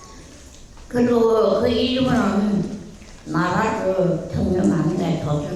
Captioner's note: speaking in foreign language